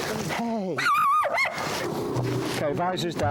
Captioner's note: Flossie barking